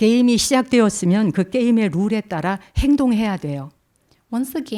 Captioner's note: speaking in Korean